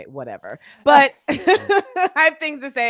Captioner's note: laughing